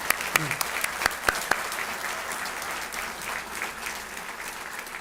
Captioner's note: applause